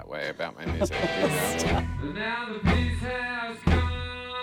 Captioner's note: laughs; heavy metal music